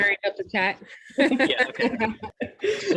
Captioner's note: laughter